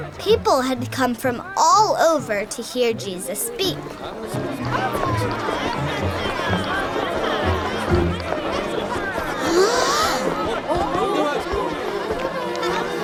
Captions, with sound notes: People had come from all over to hear Jesus speak. (crowd murmuring) (gasp)